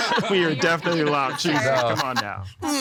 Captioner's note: all laughing